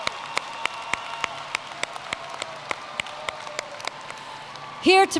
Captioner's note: cheers and Applause